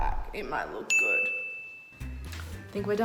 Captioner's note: dinging